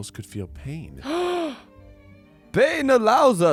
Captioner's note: gasps